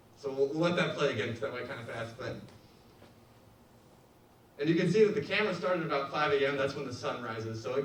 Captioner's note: none